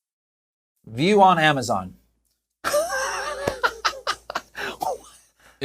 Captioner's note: laughs